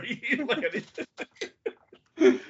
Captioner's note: laughing